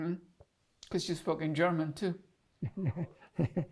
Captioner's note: laughing